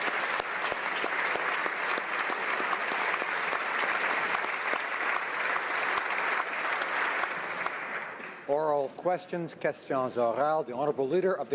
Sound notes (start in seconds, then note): 3.3 applause